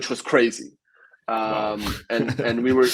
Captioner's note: laughs